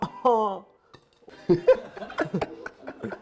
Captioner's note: laugh